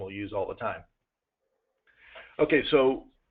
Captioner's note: pause